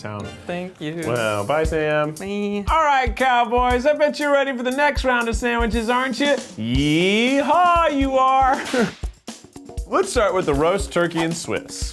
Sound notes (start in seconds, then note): 8.5 whip cracks